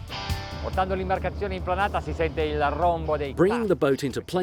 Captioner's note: speaking in foreign language